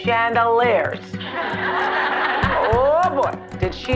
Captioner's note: audience laughing